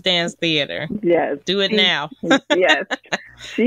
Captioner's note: laughter